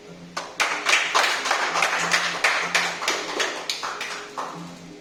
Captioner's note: audience clapping